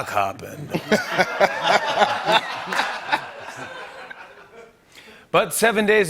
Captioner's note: laughter